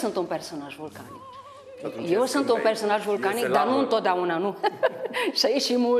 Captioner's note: laughing